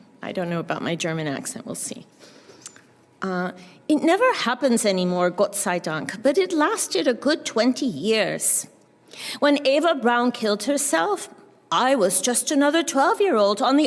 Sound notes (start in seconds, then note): 3.4 german accent; 5.7 german